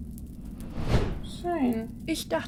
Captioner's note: woosh